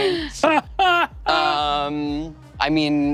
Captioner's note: Brennan laughing